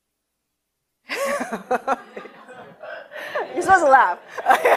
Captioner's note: laughs